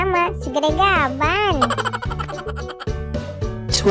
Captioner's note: sound laugh